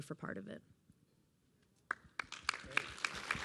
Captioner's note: applause